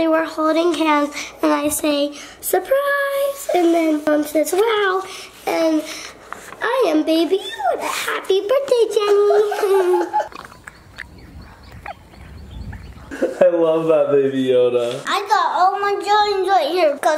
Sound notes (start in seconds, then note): 9.3 laughs